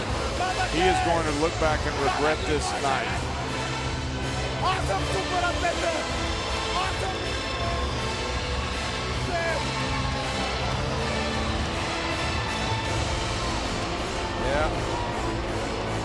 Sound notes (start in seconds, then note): 4.8 Rusev speaks foreign language